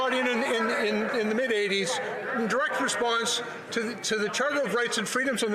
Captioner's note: yelling